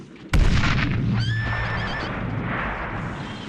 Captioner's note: horse neighs